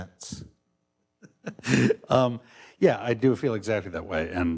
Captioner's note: laughs